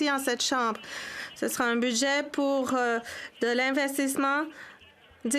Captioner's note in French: voix de l'interprète